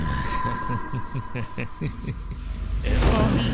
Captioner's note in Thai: เสียงหัวเราะอันชั่วร้าย